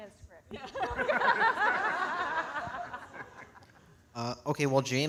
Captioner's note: all laughing